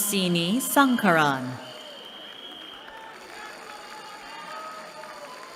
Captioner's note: cheering